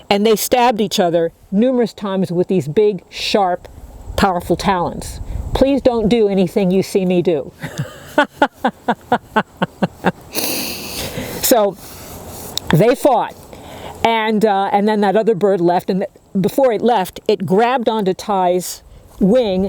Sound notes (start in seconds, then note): 7.6 laughing